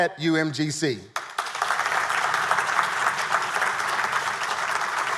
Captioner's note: audience applauding